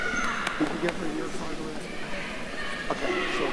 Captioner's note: faintly speaking